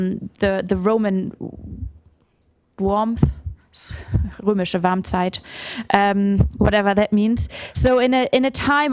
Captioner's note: non-english